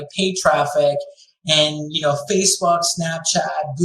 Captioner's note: none